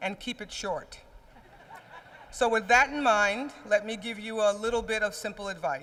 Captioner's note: laughter